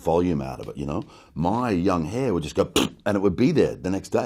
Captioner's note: spits